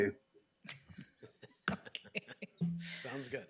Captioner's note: members laughing